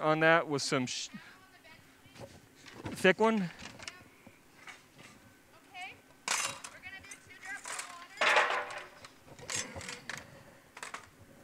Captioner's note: crunch and clatter; rustling